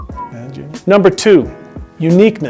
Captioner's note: whistle